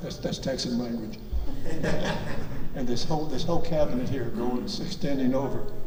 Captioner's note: audience laughs